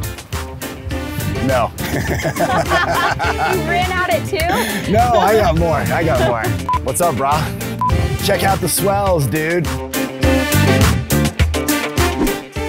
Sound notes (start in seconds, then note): 1.8 laughing; 1.8 laughs; 10.2 upbeat music